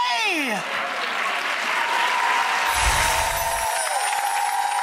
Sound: applause

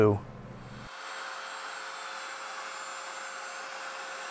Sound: router buzzing

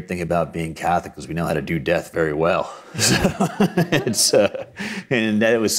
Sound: chuckles

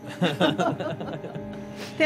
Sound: laughter

